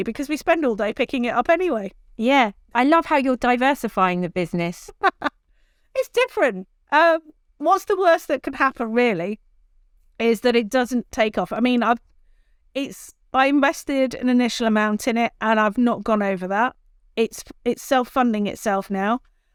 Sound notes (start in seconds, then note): 4.8 laughs